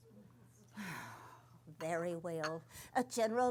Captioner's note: sighs